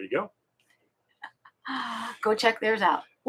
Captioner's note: laughing